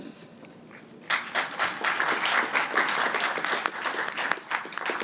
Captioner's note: applause